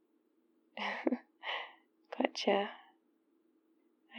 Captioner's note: laughs